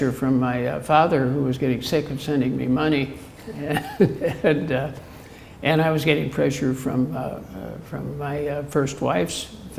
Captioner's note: chuckle